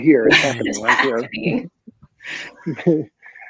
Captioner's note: laughing